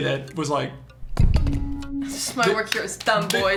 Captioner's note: thump